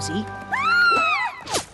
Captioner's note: scream